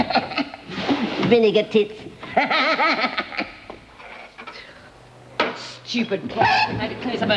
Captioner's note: laughs; cackles